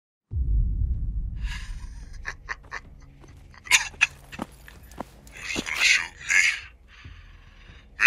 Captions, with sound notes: *Titan laughs* *Titan coughs* "You're just goin' to shoot me...?"